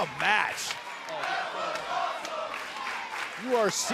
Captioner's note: fans chanting